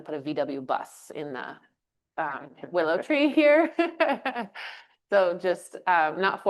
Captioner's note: chuckles